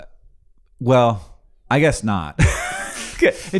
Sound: laughs

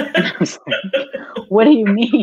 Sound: laughing

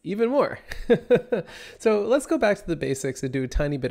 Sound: laughs

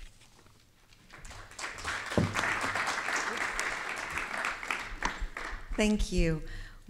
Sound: object thuds; attendees clapping

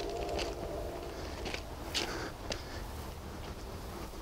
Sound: train whistle in distance

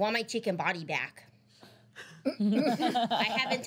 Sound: girls laughing

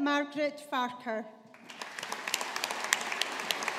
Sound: audience applauding

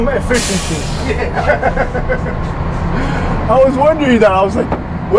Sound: laughs

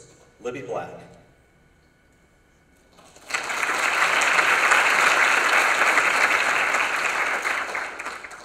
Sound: applause

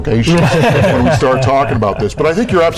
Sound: laughing

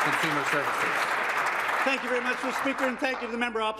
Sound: applause

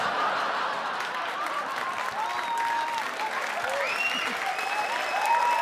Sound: audience cheer and applaud

